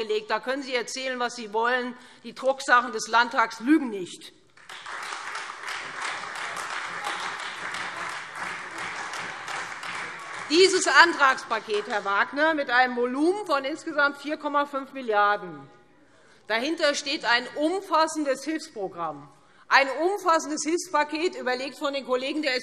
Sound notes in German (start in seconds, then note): 4.5 Beifall Freie Demokraten und vereinzelt SPD und AfD